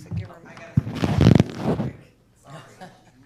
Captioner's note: microphone crackling